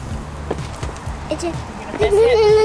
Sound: vocalizing, exclaims softly

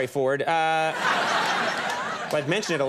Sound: audience laughing

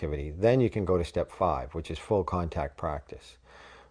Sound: none

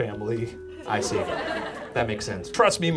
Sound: audience laughs

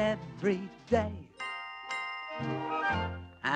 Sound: chime chime

